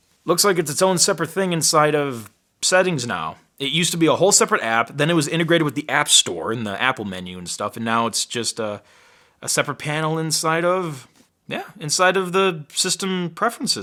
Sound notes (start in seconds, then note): none